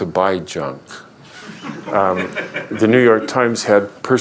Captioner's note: laughter